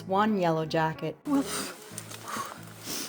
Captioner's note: blowing